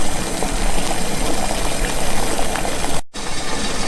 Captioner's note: water pops